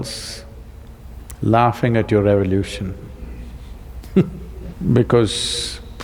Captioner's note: laughs